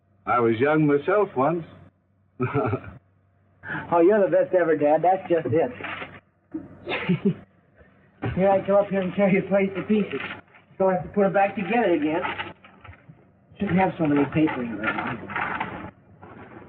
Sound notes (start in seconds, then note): 2.4 laughs; 5.5 papers rustle